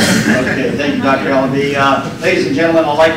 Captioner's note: laughter